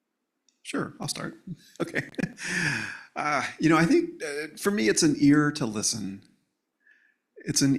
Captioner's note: laughs